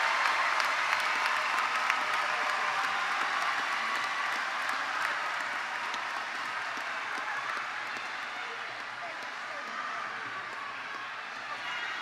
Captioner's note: cheers and Applause